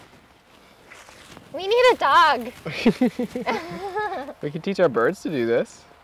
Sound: chuckle

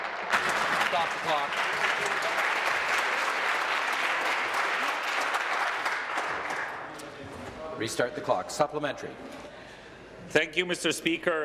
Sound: applause

